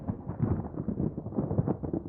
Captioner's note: thunder